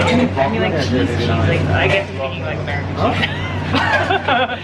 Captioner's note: laughs